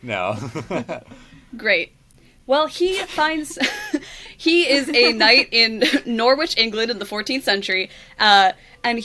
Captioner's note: laughs; laughs